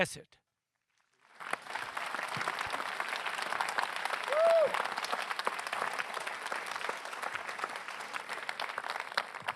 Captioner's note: applause